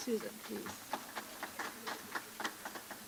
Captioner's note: applause